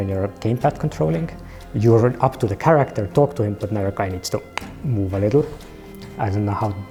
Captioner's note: clicks